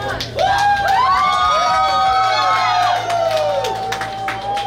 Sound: cheering & Clapping

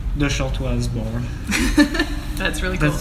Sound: laughter

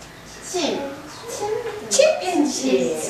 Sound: murmuring

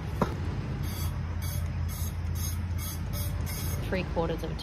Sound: oil sprays loudly in a stream against metal

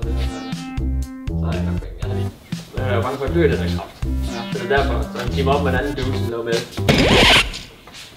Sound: people Talking

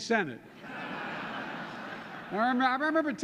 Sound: laughter

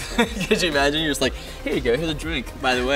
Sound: laughs

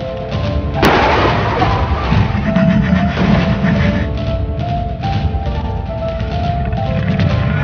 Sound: crashing car sound

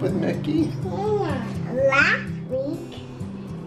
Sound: baby chatters

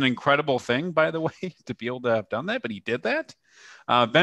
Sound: laughter

